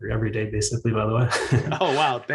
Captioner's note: chuckles